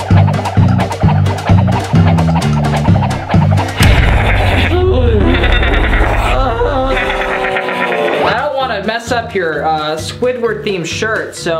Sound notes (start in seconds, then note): 3.6 groans; 4.2 snarl